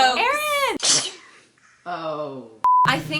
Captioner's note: baby sneezes